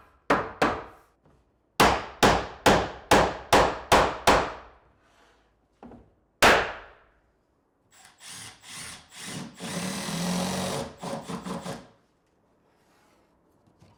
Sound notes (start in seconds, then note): 8.0 drill whirring